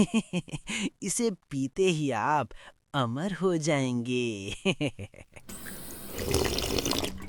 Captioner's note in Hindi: हंसी